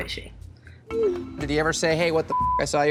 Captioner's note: beep